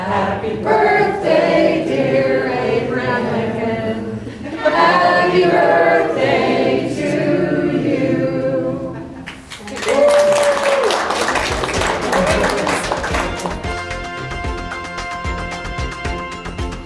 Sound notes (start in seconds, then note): 9.2 all applaud; 13.0 dramatic music